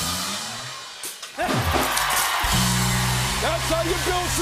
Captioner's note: cheering and applause; rimshot; cheering and applause